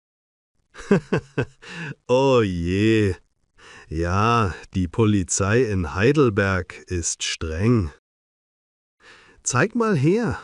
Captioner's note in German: lacht